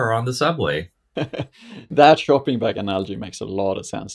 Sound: chuckles

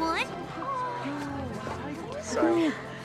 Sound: all gasping

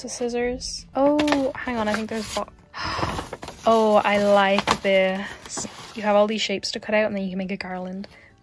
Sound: gasp

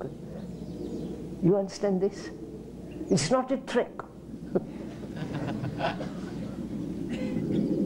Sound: laughs

